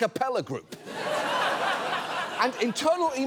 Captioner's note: audience laughs